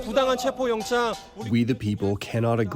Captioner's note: through translator